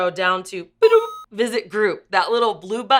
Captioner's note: beeps